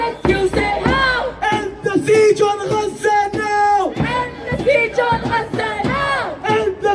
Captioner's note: chant